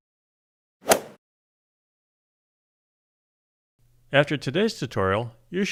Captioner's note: golf swing sound effect